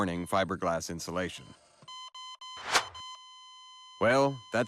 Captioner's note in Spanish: La máquina emite pitidos